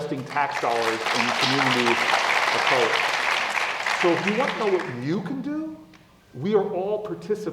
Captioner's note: applause